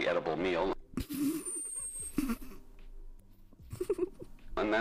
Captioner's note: laugh